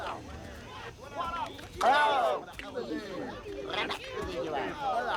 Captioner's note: speaking alien language